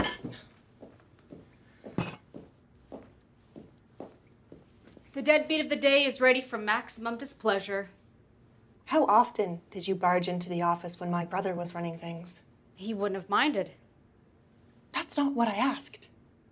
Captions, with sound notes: (footsteps clacking) - The deadbeat of the day is ready for maximum displeasure. - How often did you barge into the office, when my brother was running things? - He wouldn't have minded. - That's not what I asked.